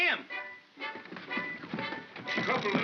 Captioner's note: feet scrambling; chattering sound of gears; suspenseful music